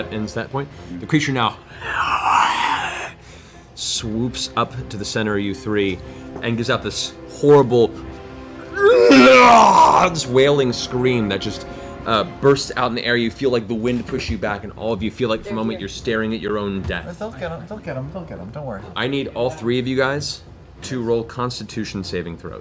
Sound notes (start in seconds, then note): 8.8 roar